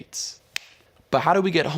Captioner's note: hand clapping